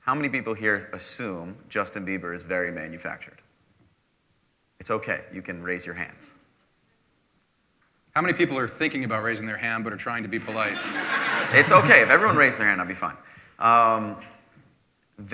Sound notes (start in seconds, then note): 10.3 laughter